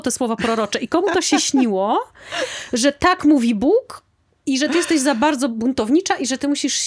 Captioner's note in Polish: śmiech